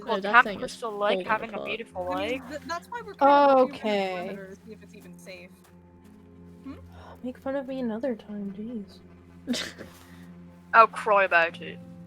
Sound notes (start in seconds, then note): 9.4 snickers